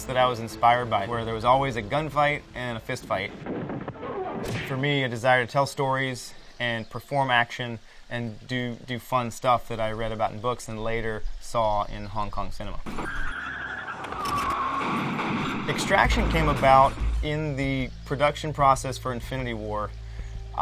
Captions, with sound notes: that I was inspired by where there was always a gunfight and a fist fight. For me, a desire to tell stories and perform action and do fun stuff that I read about in books and later saw in Hong Kong cinema. [tires squealing] [gun shots blasting] "Extraction" came about in the production process for "Infinity War."